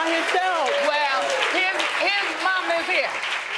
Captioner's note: audience applauding